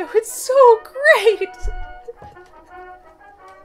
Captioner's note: cute giggling